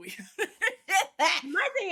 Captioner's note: both laughing